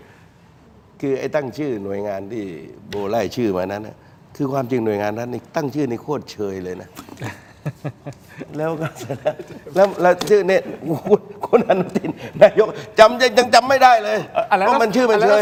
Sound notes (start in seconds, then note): 7.0 laughter